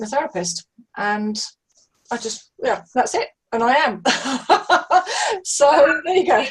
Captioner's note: laughs heartily